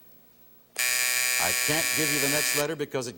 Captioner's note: buzzer